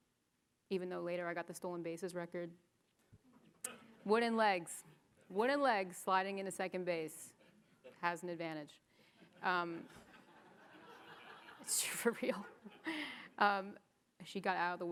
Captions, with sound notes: even though later I got the stolen bases record. Wooden legs. Wooden legs sliding into second base. Has an advantage. (audience laughing) (audience laughing) For real. She got out of the way.